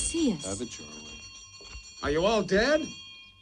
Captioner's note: bell ringing